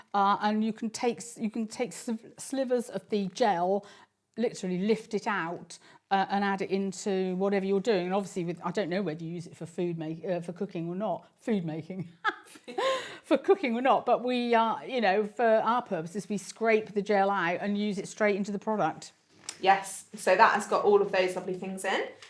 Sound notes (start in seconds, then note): 12.6 laughs